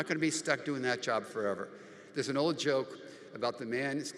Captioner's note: none